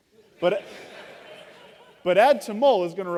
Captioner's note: laughter